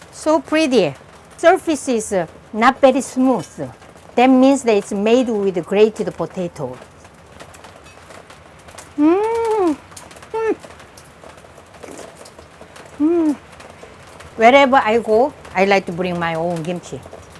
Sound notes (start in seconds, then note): 11.8 slurps